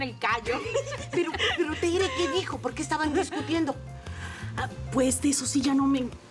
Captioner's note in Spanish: Risas